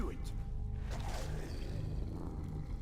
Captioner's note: Draugr growling